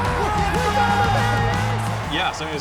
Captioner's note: cheering